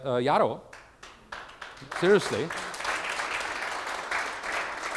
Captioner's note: applause